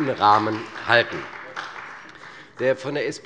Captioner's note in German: Beifall bei der CDU